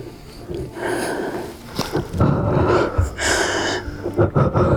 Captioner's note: gasping